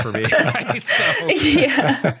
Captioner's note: laughter